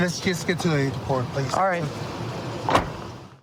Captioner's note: car door closes